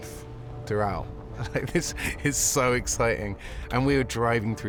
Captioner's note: chuckling